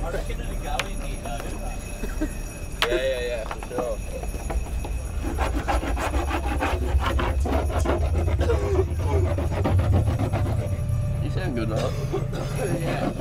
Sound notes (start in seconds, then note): 8.3 coughs